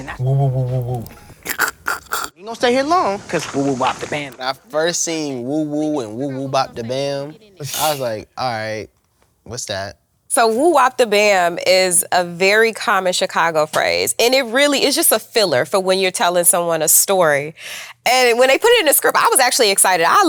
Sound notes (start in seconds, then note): 1.4 snickers